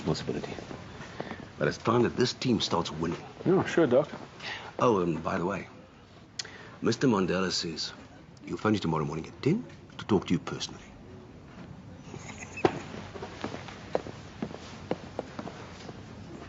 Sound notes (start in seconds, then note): 12.0 laughs